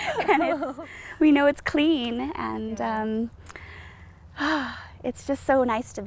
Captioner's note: chuckling; sighs